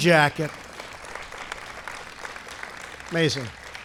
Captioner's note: applause